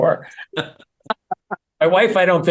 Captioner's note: laugh